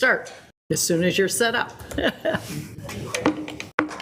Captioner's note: chuckles